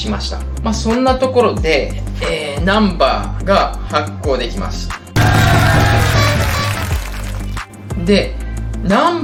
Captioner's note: applause